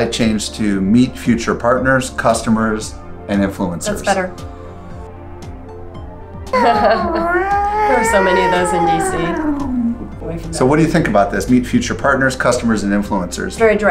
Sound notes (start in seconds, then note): 6.5 sirens blaring